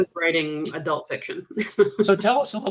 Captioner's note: chuckling